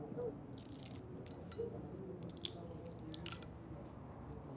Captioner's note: eggshell cracking